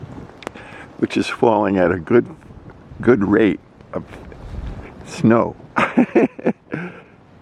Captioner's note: laughing